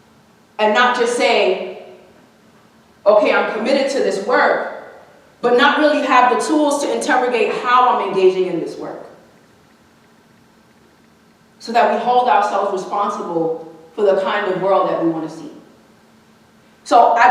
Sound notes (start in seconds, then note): none